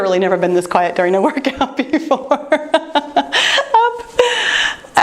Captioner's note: laughing